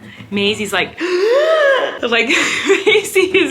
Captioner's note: gasps